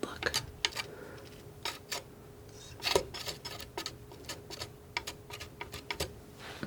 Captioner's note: tapping